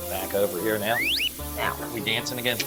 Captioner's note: slide whistle plays